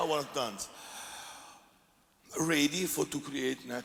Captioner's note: 吸氣